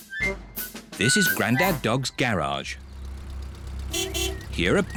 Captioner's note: horn beeps